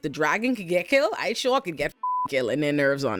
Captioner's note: beep